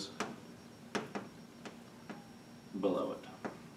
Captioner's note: chalk tapping